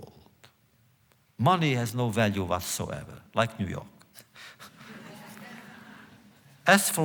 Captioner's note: laughter